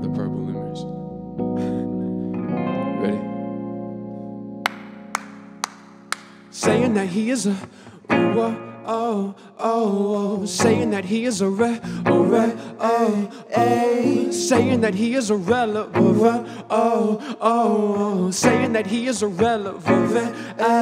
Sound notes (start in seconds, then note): 2.2 chuckling; 4.6 clapping